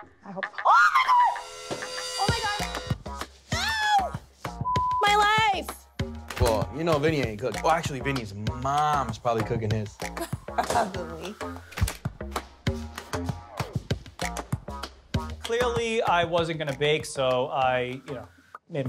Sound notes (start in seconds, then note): 4.6 beep; 11.8 percussive music